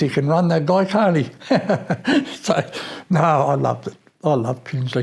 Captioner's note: laughs